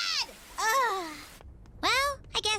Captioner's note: groans